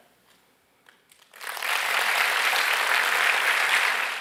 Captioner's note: applause